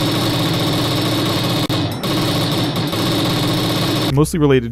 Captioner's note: banging sound effects